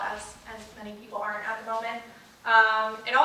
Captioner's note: none